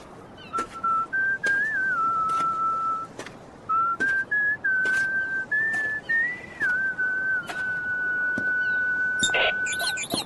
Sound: whistling

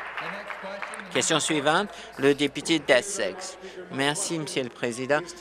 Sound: applause

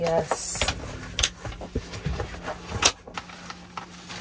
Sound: curtains crinkling

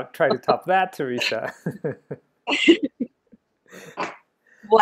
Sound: laughing

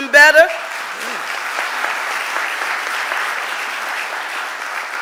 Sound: audience applauding

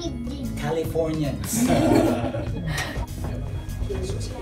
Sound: everybody laughs

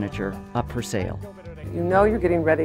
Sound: murmuring

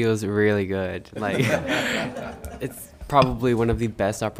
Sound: all laughing

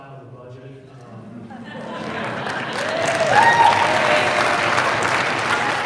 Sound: audience cheers and applauding

